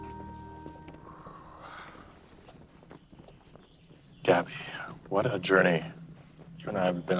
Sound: sighs

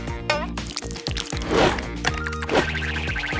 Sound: slimy noise

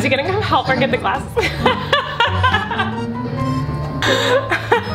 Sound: laughs

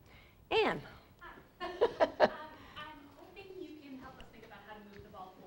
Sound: laugh

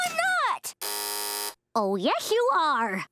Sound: buzzing

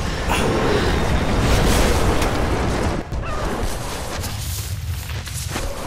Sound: avalanche, heavy wind sounds

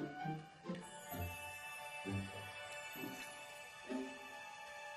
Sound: tinkling

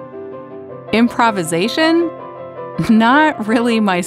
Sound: laughs

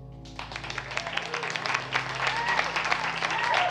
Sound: applause

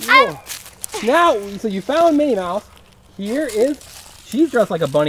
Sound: voiceover

